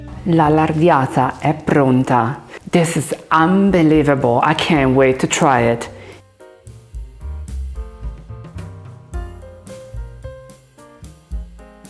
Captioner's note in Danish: taler italiensk